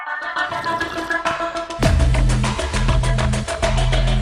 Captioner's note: liquid slurping